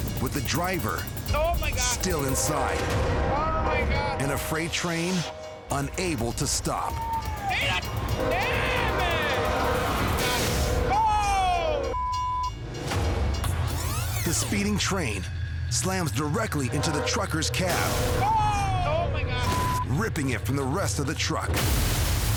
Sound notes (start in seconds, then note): 7.6 crossing bell ringing; 11.9 beep